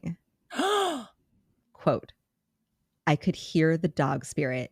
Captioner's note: gasping